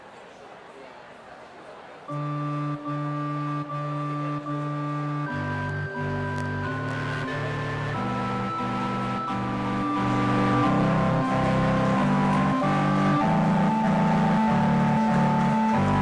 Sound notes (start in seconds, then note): 7.7 audience chattering excitedly; 12.0 audience applauding